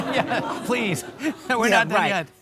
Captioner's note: audience laughing; laughing